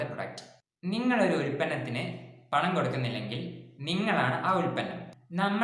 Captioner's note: explains the quote in Malayalam